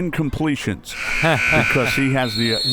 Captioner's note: buzzer; whistle; laughs